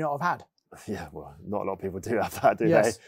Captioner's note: chuckles